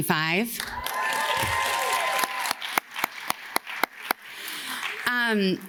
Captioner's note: audience cheers and claps